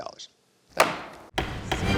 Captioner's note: gavel bangs